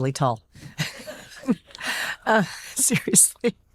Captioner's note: laughing